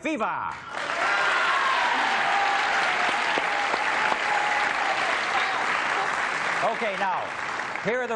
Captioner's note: applause